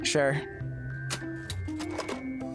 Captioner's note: cash Register Opening